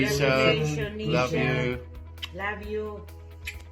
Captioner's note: kiss